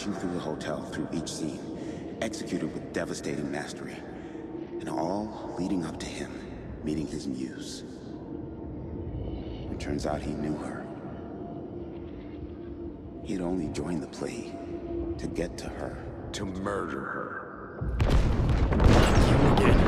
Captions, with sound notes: through the hotel through each scene, executed with devastating mastery, and all leading up to him, meeting his muse. It turns out he knew her. He had only joined the play to get to her. - To murder her. (gunshots) - Let him begin.